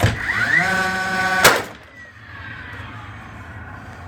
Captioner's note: drill revving